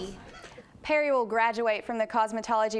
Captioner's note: laugh